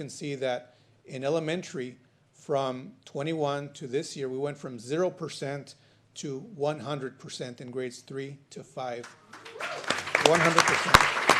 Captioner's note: applause